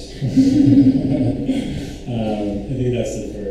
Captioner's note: panelists laugh